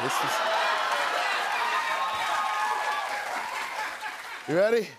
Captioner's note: cheers and applause